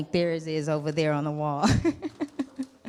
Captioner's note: laughs